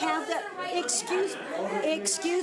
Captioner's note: overlapping chattering